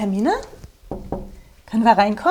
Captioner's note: knock